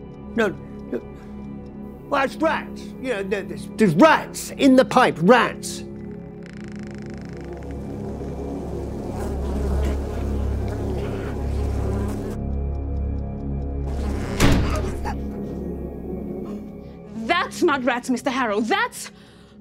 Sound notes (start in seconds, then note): 5.9 door creaks; 8.4 flies buzzing; 8.4 ominous music continues; 13.9 door slams; 14.6 Sandra gasps